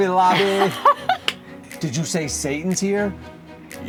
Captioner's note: laughing